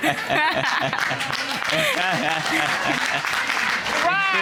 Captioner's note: audience applauding